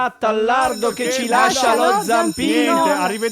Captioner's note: bell rings